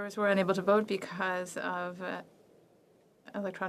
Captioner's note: speaking French